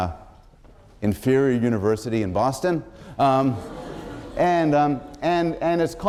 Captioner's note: laughter